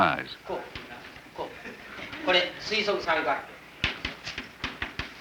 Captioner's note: Japanese speaking